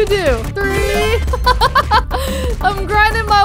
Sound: laughs

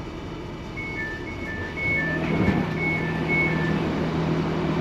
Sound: door beeping and opening

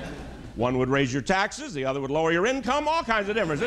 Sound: laughter

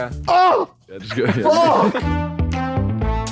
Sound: KSI yelling; brass music playing

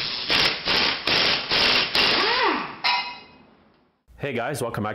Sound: drill engine roaring

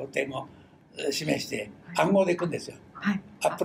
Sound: foreign language

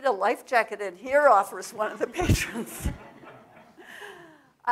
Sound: audience laugh

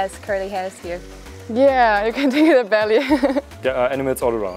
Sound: laughs

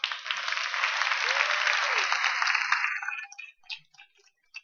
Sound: applause

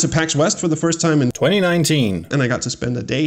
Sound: suspiciously dubbed-in voice

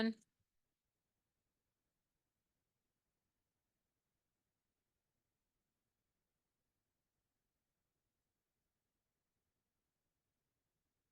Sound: audio cuts out

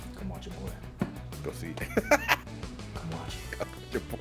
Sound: laugh

